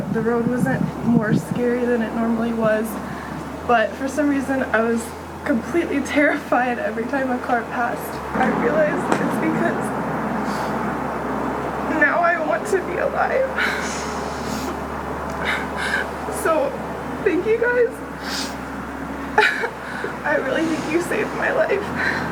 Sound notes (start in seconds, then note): 13.5 exhales